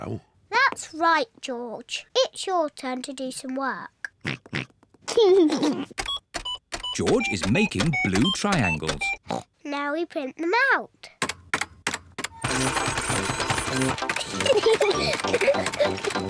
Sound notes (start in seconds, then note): 4.1 computer beeping; 4.9 oinks and giggles; 9.2 oinks; 14.1 giggling